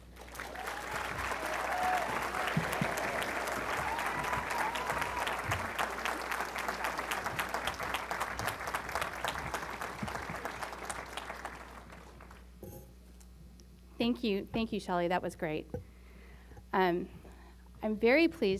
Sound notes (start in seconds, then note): 0.0 applause